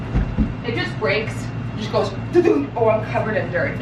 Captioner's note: imitating thudding